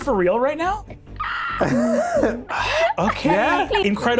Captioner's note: squeals; laughs